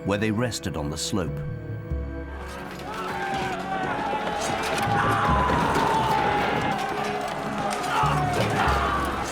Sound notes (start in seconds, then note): 2.7 soldiers screaming; 3.0 soft dramatic music